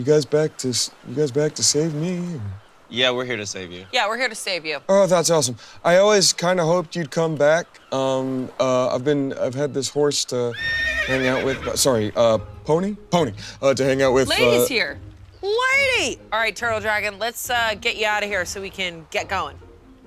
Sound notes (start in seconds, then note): 10.4 pony neighing